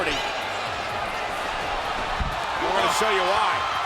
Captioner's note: spectators cheering